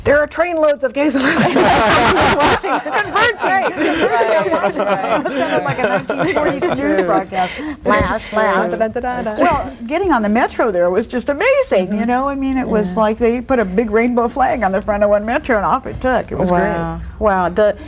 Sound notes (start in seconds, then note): 4.3 all laughing